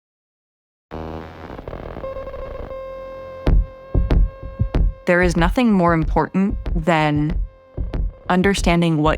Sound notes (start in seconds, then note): 0.9 digital buzzing; 2.4 digital beeping